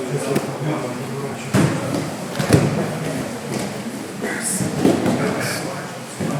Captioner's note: heavy breathing and movement on the mat